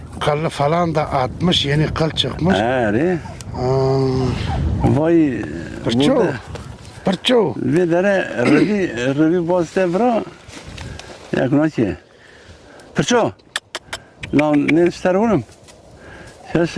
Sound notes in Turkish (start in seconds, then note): 8.4 boğazını temizler